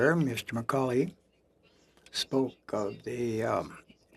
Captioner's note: speaking French